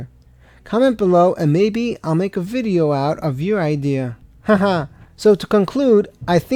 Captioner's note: laugh